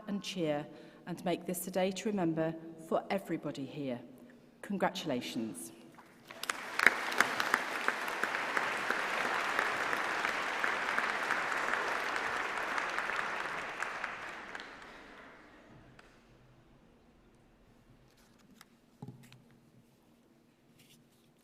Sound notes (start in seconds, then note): 8.7 applause